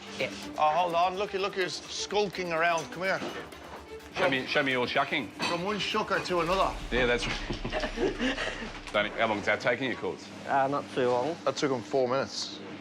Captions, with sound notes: Yeah. Oh, hold on. Look who's skulking around, come here.- Yep, show me, show me your shucking. From one shucker to another. Yeah, that's... (LAUGHS) How long's that taking you? Not too long. That took him four minutes.